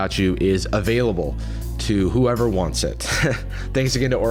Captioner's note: chuckles